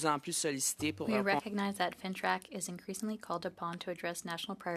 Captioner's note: speaking in French